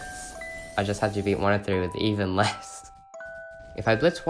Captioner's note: laugh